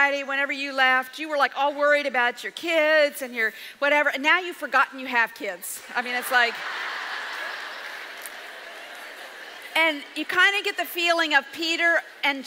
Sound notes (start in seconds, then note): 5.9 audience laughs